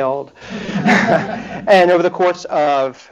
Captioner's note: laughter